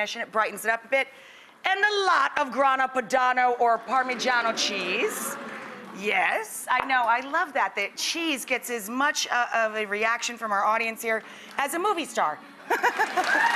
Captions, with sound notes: and it brighten's it up a bit. And a lot of grana padano or parmigiano cheese. (audience murmurs in approval) Yes, I know, I love that, that cheese gets as much of a reaction from our audience here as a movie star (laughs).